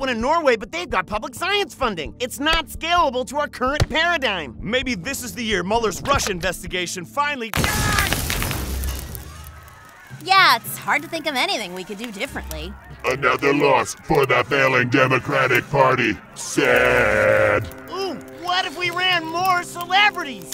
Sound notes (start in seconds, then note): 7.6 loud crash